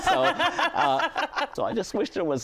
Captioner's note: laughter